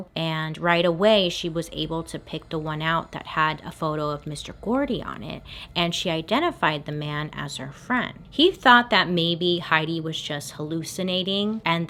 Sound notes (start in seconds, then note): none